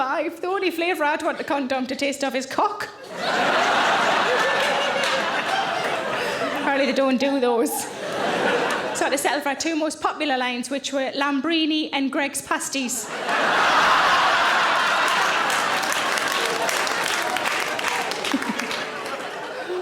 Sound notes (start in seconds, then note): 3.0 audience laughing; 13.0 audience laughing; 13.1 audience applauds